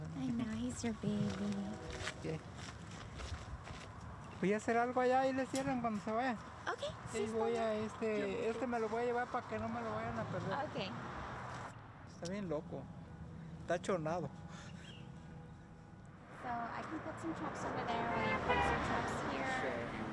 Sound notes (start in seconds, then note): 0.0 speaking in Spanish; 2.3 speaking in Spanish; 11.8 speaking in Spanish